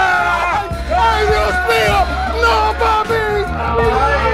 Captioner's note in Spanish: gritando